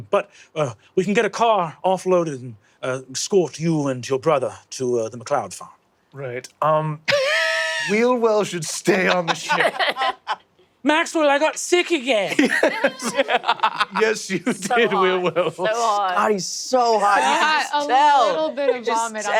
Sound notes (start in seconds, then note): 7.1 wheezes